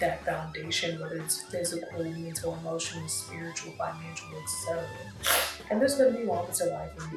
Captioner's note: sniffs